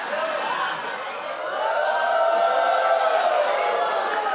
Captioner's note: audience exclaims